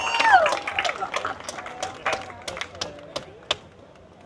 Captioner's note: applause